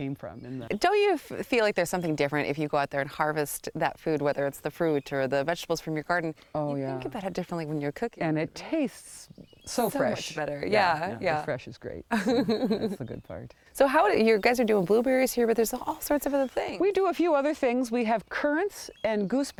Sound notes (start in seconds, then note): 12.1 soft chuckle